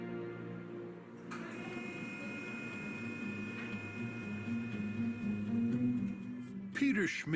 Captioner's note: machines whirring